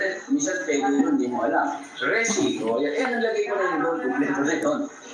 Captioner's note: clears throat